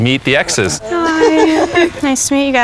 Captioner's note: laughs